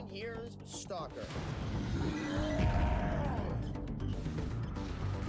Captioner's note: roaring